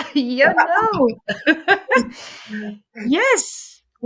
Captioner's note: laughs